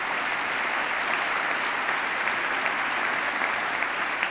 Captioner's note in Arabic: تصفيق